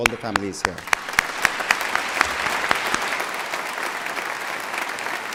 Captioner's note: applause